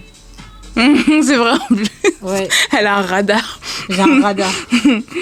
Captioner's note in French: rires